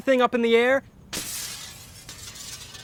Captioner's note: window Shatter